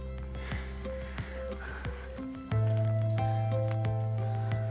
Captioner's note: soothing music; breathes heavily